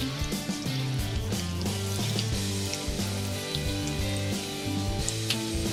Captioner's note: sizzling